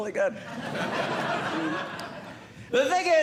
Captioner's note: audience Laughing